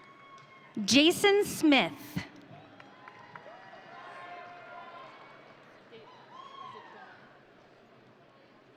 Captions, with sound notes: Jayson Smith. (audience cheering)